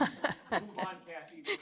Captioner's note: laughter